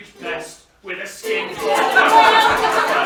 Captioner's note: laughter